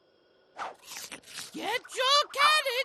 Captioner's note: munches